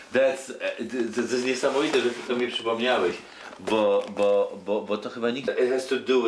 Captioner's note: speaking Polish